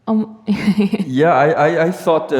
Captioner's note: laughs